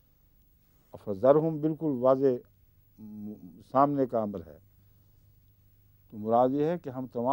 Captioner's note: Arabic